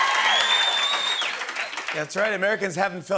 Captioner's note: cheering and applause; whistling